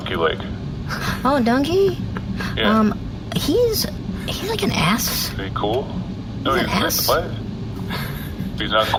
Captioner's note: quietly